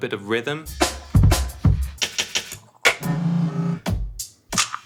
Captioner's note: rhythmic beating